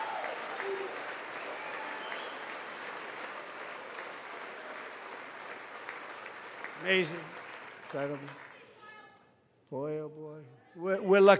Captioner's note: applause